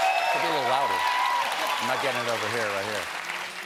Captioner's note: cheers and applause